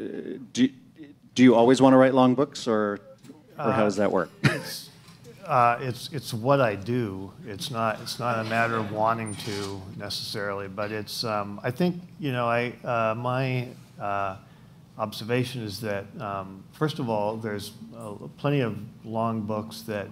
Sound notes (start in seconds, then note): 4.2 laughs